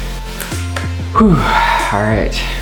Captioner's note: upbeat music; snaps; exhales